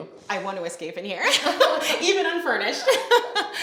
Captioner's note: laughing